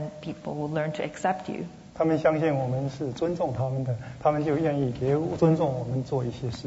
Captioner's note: speaking Mandarin